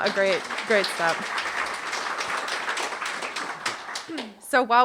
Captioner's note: audience applauding